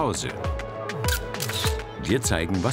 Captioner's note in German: Fotoklicken